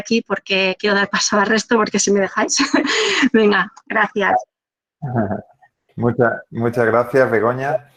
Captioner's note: laughs